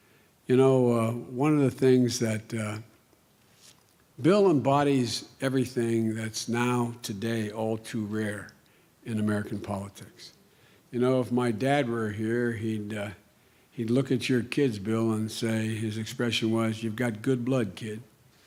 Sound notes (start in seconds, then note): none